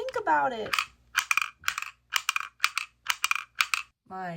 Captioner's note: metal clanks rhythmically